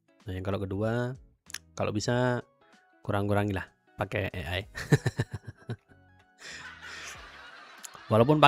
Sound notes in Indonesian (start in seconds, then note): 6.4 tertawa